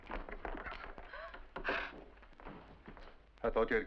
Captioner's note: gasps